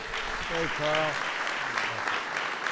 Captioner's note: applause